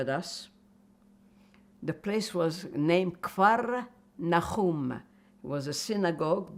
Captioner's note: non-english